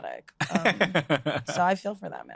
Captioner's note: laughs